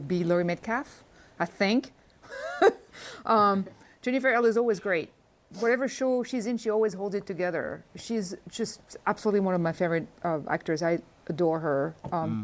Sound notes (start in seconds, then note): 2.2 laughs